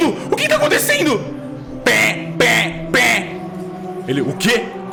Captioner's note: siren